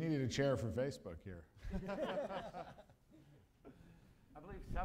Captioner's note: laughter